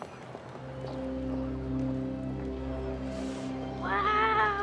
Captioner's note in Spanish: bullicio en el lugar